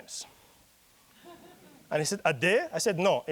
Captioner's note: audience chuckling